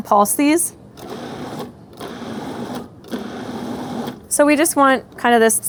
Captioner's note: machine whirring